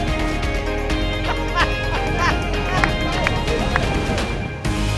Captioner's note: laughing